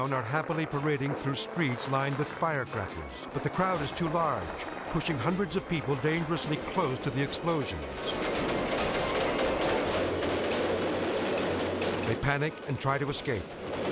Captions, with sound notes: are happily parading through streets lined with firecrackers, but the crowd is too large, pushing hundreds of people dangerously close to the explosions. (fireworks exploding) They panic and try to escape.